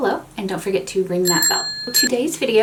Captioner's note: bell ringing